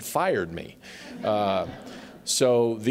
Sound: laughter

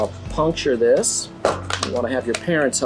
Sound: bottle crushing

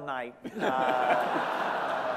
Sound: laughter

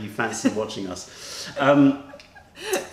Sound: laughter

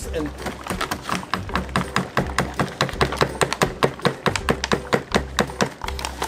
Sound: upbeat music; hammer bangs

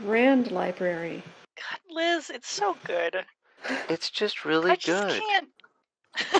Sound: sighs; delighted laughter

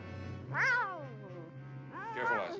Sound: Isis growls; meows

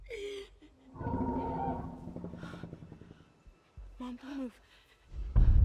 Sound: dinosaur growls

